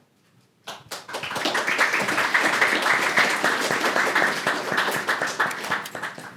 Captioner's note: applause